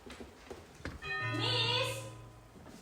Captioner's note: door bell rings